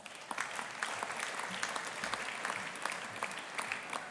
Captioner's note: audience applauding